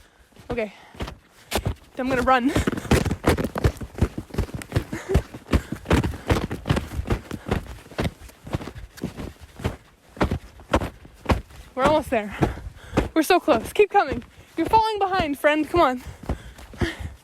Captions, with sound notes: Okay. I'm gonna run. (panting) (snow crunching) We're almost there. We're so close. Keep coming! You're falling behind, friend. Come on.